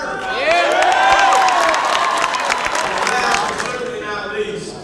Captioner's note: cheering and clapping